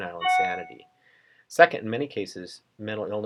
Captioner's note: computer chime